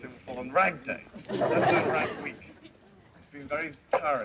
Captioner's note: students laughing